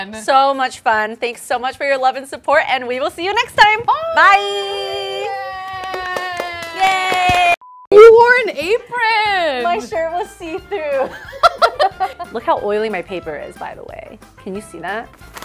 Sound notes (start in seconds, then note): 7.6 beep; 10.9 laughs